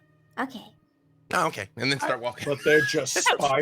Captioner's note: laughs